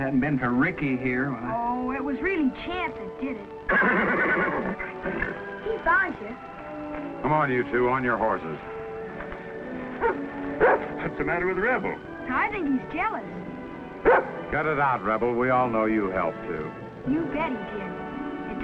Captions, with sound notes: - And if it hadn't been for Ricky here, I... - Oh, it was really Chap that did it. (neighs) He found ya. - Come on, you two, on your horses. (barks) - What's the matter with Rebel? - I think he's jealous. (barks) - Cut it out, Rebel. We all know you helped too. - You bet he did.